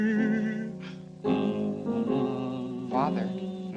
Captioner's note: humming